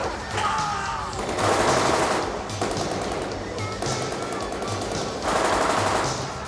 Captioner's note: groaning; guns firing